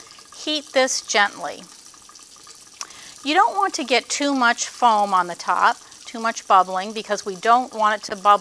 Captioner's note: too much bubbling